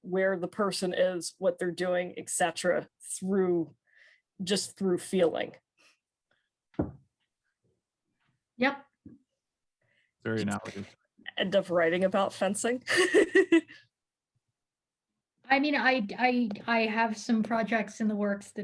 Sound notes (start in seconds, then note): 13.0 laughing